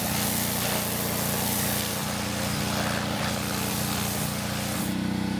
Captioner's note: spray hissing continues